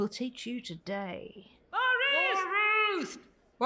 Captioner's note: crowd